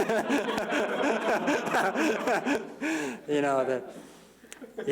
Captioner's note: laughter